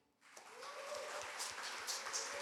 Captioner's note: applause